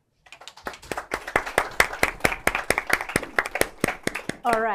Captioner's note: applause